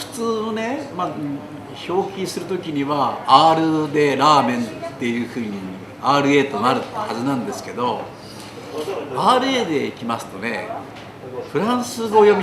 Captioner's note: raspy H sound